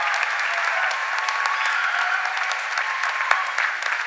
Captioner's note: cheers and applause